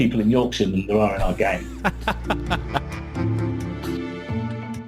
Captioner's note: laughs